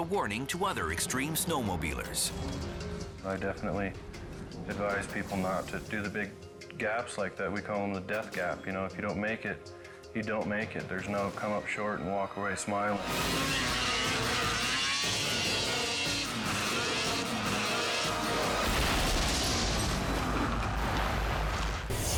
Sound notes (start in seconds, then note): 13.7 engines revving; 18.6 crashing; 21.9 dramatic music